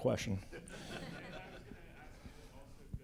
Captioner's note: laughter